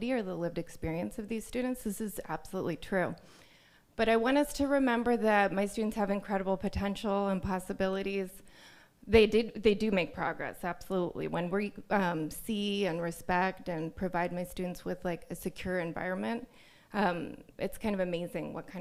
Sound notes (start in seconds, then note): none